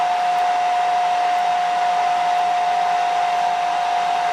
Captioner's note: noise dryer